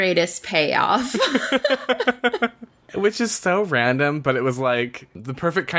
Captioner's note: laughs